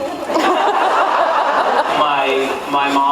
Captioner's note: laughs